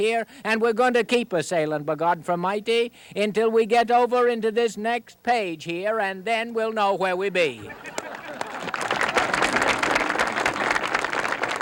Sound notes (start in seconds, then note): 7.6 audience laughs; 7.7 audience applauds